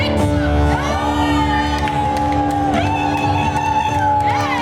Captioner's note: cheering